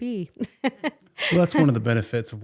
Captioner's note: laughing